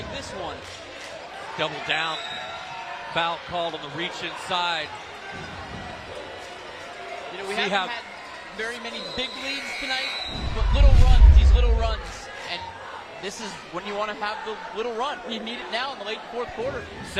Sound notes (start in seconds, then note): 6.2 applause